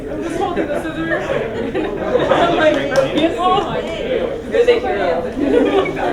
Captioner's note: talking and laughing